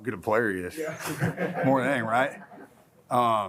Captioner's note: laughs